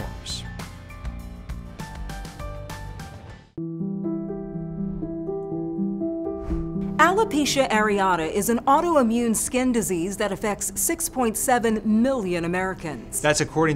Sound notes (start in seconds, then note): 0.1 gentle lively music; 3.5 soft piano music; 6.4 logo swooshing